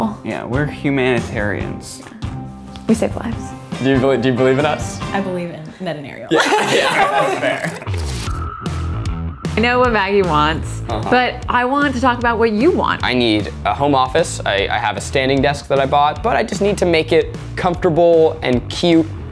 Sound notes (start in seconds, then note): 6.3 all laughing; 7.8 upbeat music